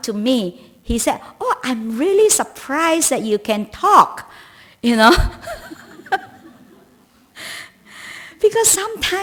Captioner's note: laughs